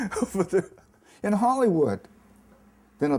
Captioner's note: chuckles